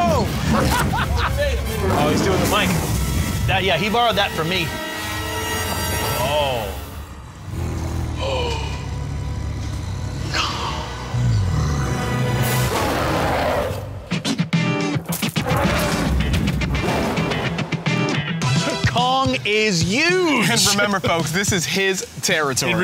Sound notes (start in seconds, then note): 12.3 Kong roaring; 14.1 upbeat music